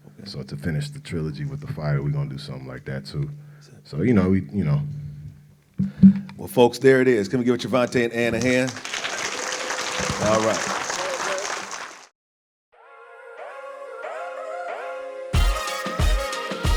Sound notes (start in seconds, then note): 8.3 audience applauds; 13.3 bright music